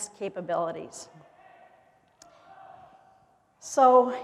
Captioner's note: chanting in the distance